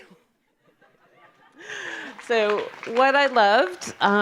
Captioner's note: audience applause